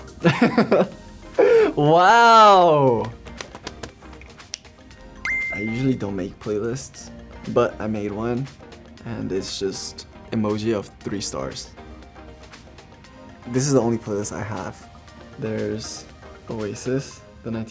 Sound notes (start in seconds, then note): 0.2 laughs; 2.6 slapping; 4.5 snaps; 5.2 beeps